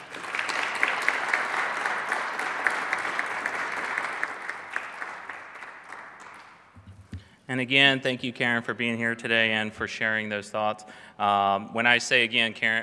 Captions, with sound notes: (Applause) And again, thank you Karen for being here today and for sharing those thoughts.